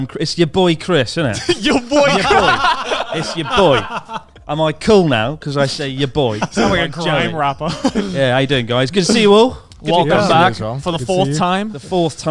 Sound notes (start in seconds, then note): 1.3 chuckling; 2.8 laughs